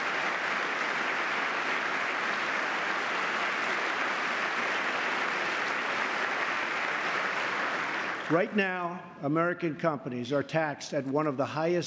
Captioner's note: applause